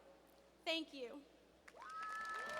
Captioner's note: cheers and applause